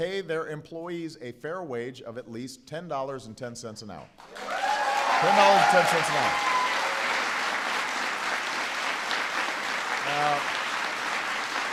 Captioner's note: applause